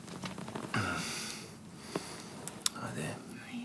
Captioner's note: John groans